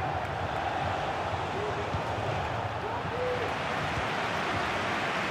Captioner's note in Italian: Applauso